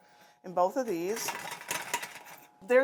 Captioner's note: metal rattling